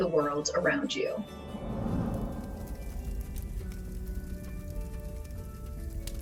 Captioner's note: torch blazing